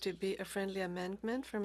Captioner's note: speaking French